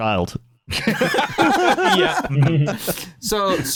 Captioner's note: laughter